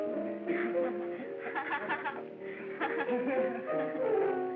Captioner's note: woman laughing